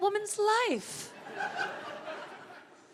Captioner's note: women in audience laughing loudly